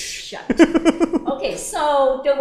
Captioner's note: laughs